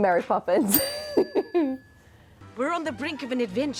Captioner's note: bell dinging